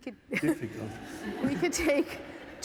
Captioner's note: laughter